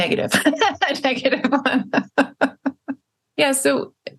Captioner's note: laughs